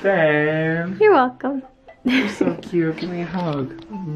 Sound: giggles

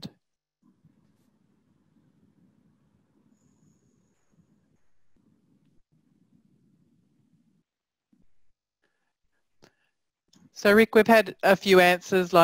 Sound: pause

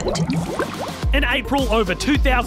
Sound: bubbles gurgle

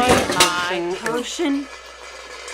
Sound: clang

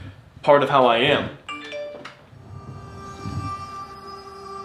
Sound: phone chimes

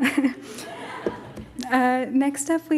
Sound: laughs

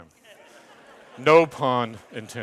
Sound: audience laughs

